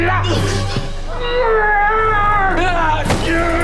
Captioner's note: groaning